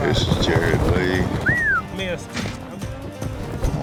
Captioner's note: whistles